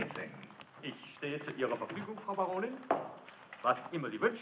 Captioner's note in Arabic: الصوت المنطوق باللغة الألمانية